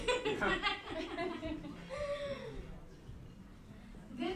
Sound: laughing

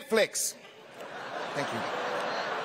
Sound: laughter

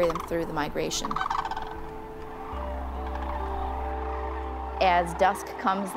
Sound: crane song

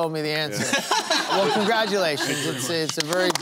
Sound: laughter

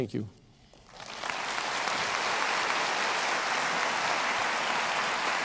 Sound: applause

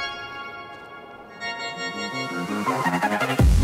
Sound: none

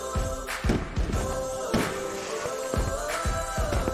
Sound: fireworks exploding

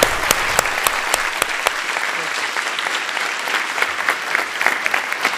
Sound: applause

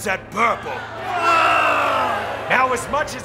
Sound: cheering

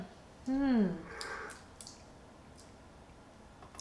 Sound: sips tea

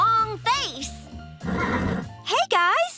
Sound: neighing

